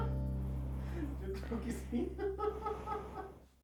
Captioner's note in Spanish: entre risas